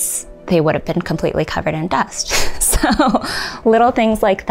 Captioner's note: chuckles